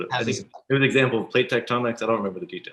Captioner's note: whispering